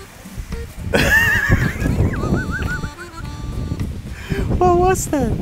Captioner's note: laughing